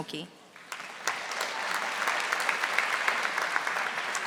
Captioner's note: audience applauding